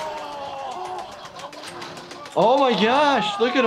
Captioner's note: Ehren scream in pain